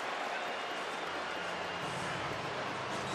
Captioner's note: crowd cheering